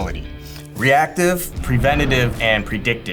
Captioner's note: boxes whooshing